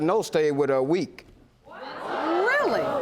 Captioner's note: audience gasping